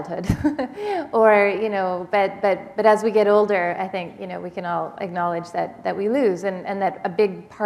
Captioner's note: chuckle